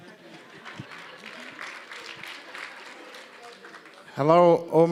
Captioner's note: applause